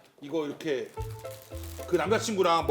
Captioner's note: rustling